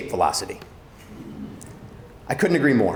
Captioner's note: audience chuckling